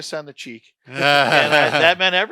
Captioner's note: laughter